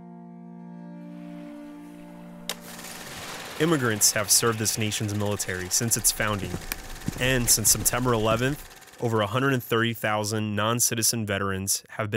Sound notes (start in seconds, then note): 2.5 film reel clicking